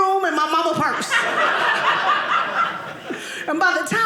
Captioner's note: audience laughing